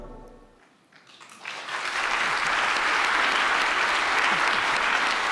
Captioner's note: audience clapping